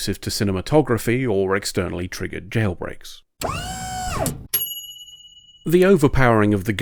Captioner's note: pneumatic whine, ding